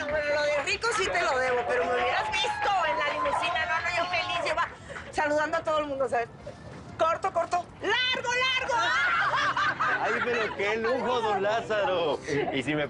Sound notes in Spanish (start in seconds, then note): 8.6 Risas y exclamaciones